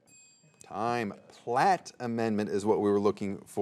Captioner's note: soft chiming